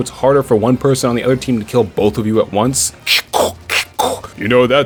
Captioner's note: Krabby Noises